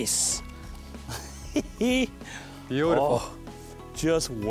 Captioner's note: laughs; voiceover